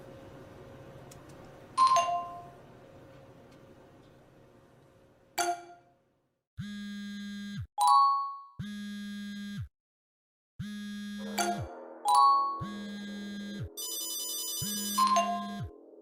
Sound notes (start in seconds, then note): 1.8 silence; 3.8 notification sound; 15.8 layered notification sounds